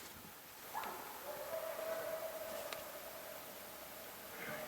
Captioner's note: elk call and coyote yelps